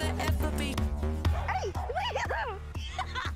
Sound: barks; laughs

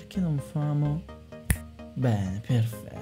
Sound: finger's snap

